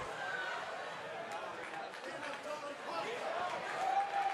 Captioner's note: audience cheering